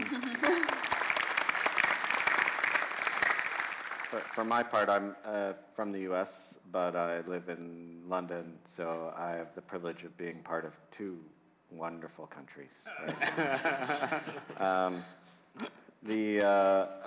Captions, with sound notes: (audience applauding) For my part, I'm from the U.S. But I live in London. So, I have the privilege of being part of two wonderful countries. (laughing)